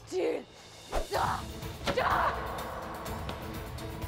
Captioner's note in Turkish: Hançer savurma sesi